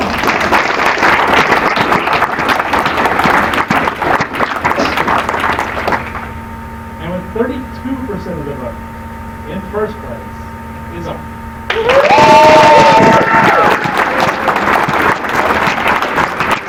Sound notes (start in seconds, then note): 0.0 applause; 11.7 applause